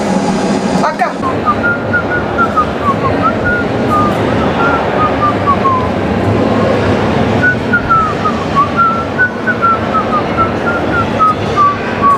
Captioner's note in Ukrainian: насвистує незнайому мелодію